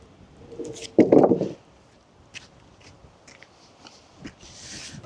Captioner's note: wood clanging